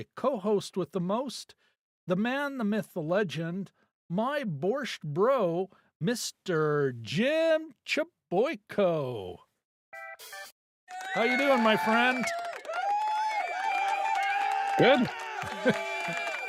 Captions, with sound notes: co-host with the most. The man, the myth, the legend, my borscht bro, Mr. Jim Chaboyco. How you doing my friend? (audience cheering) Good.